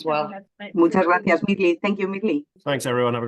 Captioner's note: speaking Spanish